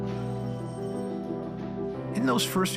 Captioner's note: telephone rings